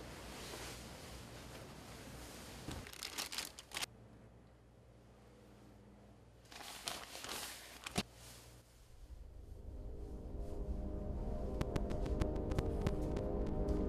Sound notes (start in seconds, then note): 6.4 rustling; 10.6 curious spacey music